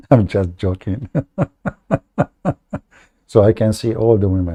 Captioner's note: Ketawa